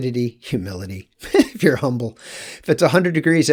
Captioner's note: chuckles